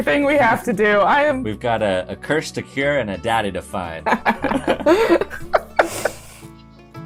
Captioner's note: laughter